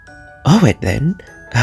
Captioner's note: exasperated